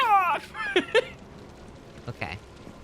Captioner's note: laughs